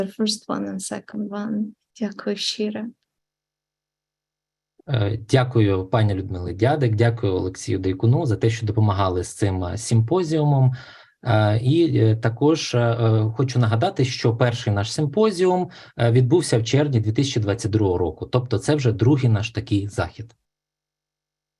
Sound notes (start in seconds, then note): 4.9 foreign Language Spoken